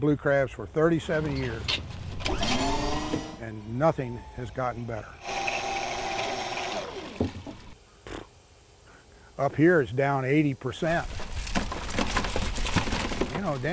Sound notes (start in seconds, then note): 5.2 motor humming; 11.0 crabs clunking